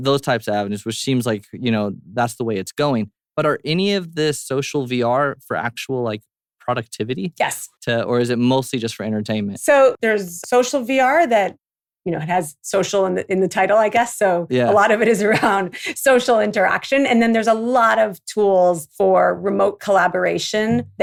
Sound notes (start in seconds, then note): 14.2 laughs